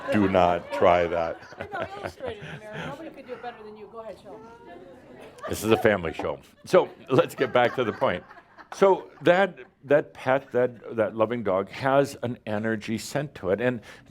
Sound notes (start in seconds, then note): 1.3 more laughter; 8.1 more chuckles